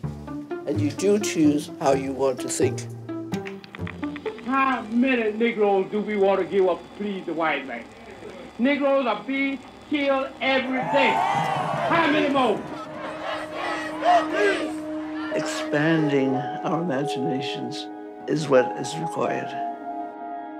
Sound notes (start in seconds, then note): 10.6 crowd